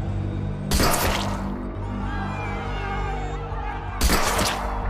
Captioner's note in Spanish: Disparos